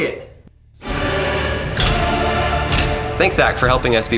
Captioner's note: drill clicking